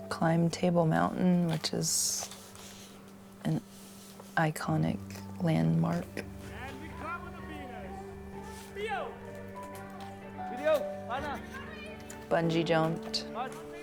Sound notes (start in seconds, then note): 8.1 light music; 8.1 people chattering